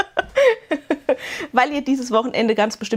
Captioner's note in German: gelächter; japst